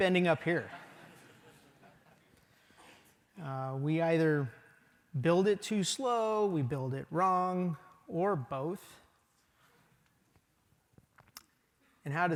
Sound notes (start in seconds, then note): 0.0 laughter